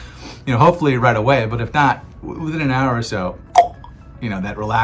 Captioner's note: tongue clicks